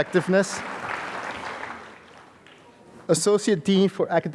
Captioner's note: applause